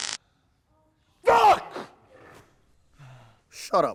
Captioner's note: shouting